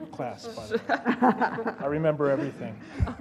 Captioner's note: laugh